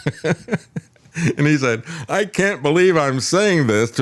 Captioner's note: laughs